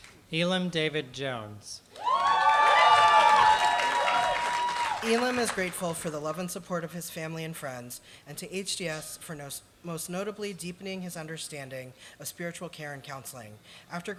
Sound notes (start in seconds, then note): 2.0 applause